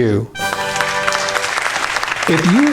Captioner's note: audience clapping